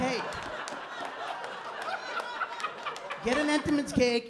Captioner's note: laughter